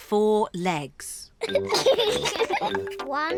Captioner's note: both giggle